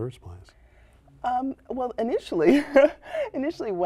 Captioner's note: laughter